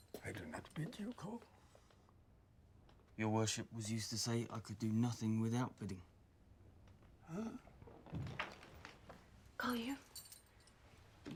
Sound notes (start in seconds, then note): 7.8 door opens